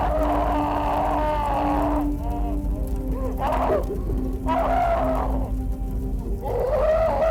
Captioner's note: fire crackling; John screaming